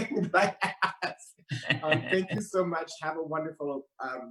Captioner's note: laughs